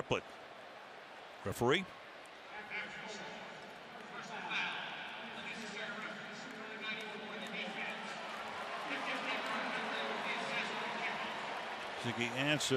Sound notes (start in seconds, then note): 2.7 referee call; 9.4 cheers, applause